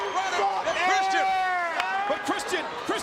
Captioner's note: audience cheering